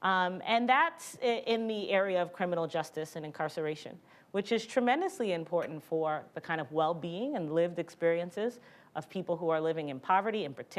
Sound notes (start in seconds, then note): none